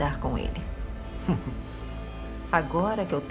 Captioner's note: Booth scoffs